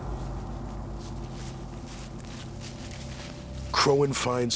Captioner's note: footsteps